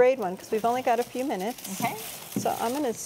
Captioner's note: garlic rustling